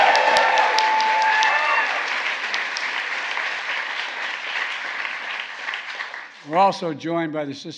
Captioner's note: applause